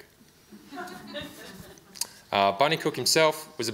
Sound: audience laughs

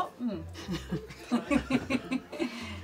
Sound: laughs

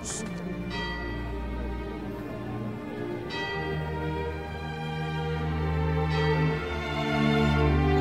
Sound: tolling bell + Music

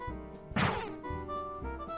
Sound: damage sound

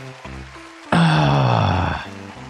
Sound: heavy sigh

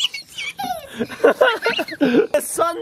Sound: laughing

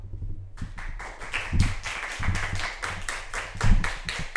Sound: audience applauding

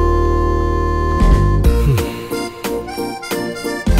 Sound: breathing deeply

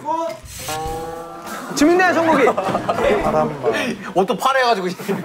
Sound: frustrated

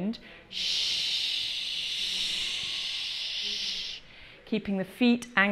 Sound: shh wind sound

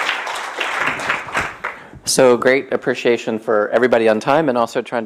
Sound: applause

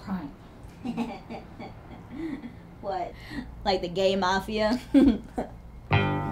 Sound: laughs

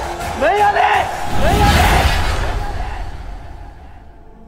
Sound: echoes

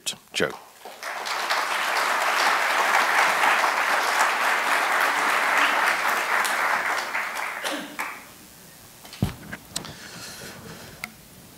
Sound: applause

